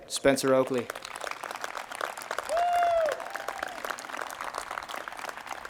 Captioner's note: audience applauds and cheers